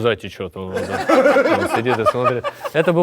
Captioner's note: laugh